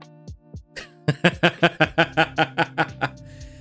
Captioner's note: laughing